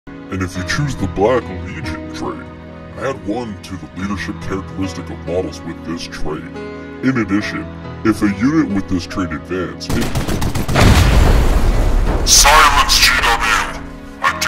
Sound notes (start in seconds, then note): 9.9 bolter shots; 10.6 explosion